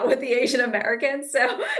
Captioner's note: laughs